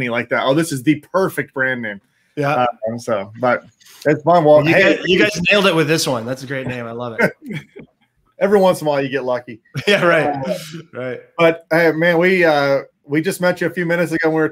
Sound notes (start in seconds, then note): 9.7 laughs